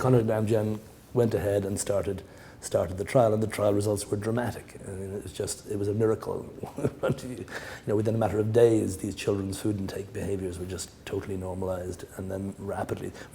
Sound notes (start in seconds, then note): 6.6 chuckle